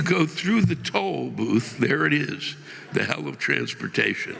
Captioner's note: audience laughing